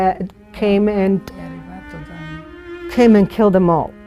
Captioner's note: speaking in foreign language